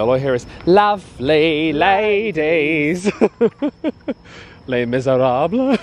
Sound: laughing

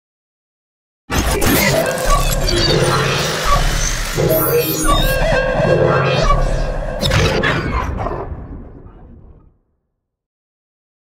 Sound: sound of transformation

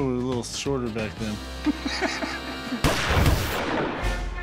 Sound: Rick laughs

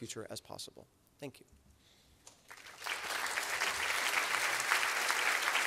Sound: applause

